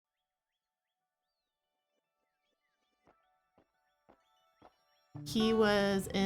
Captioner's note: birds tweeting; soft music